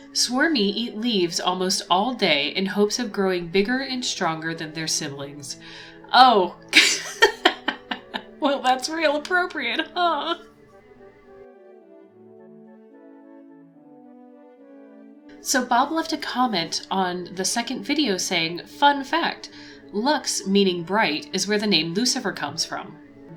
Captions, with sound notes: swurmy eat leaves almost all day in hopes of growing bigger and stronger than their siblings oh *laughter* well that's real appropriate huh so bob left a comment on the second video saying fun fact lux meaning bright is where the name lucifer comes from